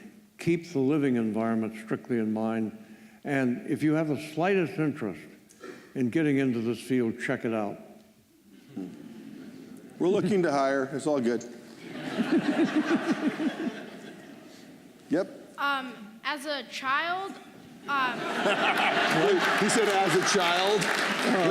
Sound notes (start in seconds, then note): 8.6 laughter; 11.8 laughter; 18.0 laughter